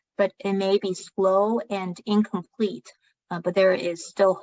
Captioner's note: speaking chinese